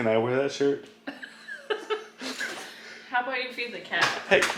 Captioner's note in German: lacht